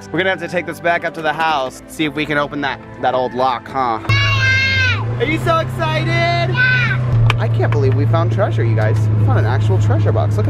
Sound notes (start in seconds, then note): 4.2 jabbers